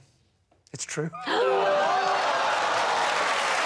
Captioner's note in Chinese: 惊讶和掌声